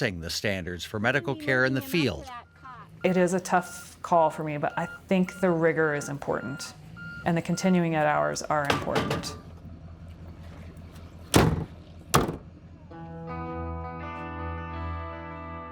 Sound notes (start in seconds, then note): 10.9 engine running; 12.1 door closing